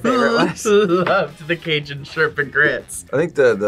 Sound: laughs

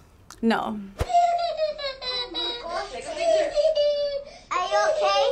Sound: boy crying

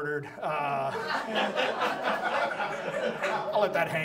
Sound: audience laughs

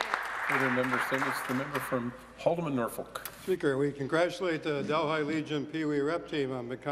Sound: some Applause

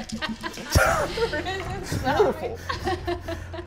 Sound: laughing

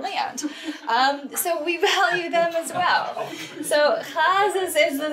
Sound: laughing from group

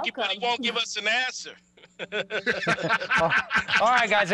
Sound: laughter

